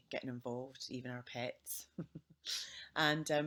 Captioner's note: chuckling